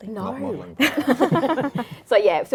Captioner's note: laugh